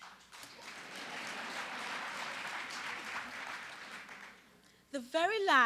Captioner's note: applause